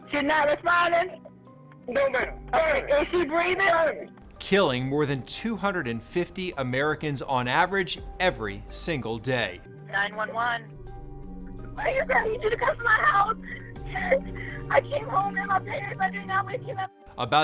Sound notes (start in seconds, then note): 14.4 sobbing